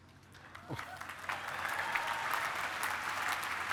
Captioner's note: applause